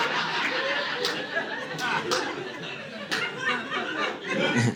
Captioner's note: audience laughing